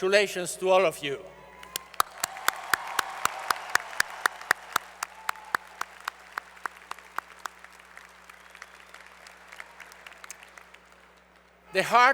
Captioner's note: applause